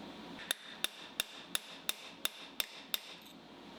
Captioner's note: tools hammering